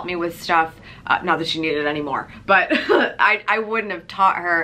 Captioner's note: laughs